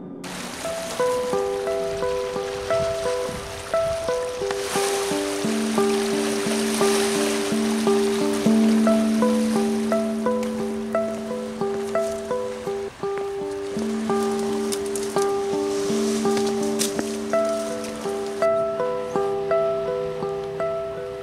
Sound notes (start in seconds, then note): 0.2 calm music; 2.4 crashing waves